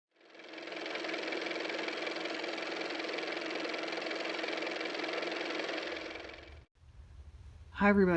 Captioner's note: car motor